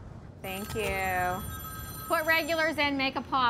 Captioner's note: phone ringing